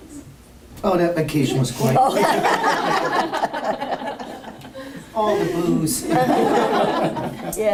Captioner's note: laughter